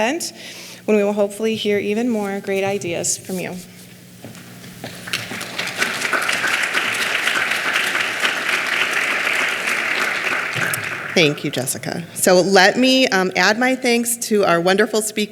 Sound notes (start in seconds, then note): 4.8 clapping